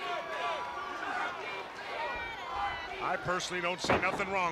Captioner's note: crowd cheering